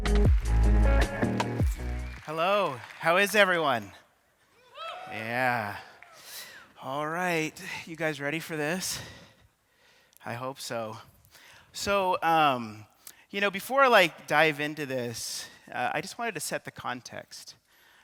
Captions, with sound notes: (audience clapping) - Hello, how is everyone? (audience cheering) Yeah, alright, you guys ready for this? I hope so. So before I like dive into this, I just wanted to set the context.